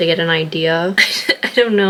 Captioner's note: laughs